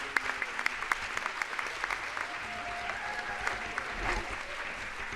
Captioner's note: audience applauds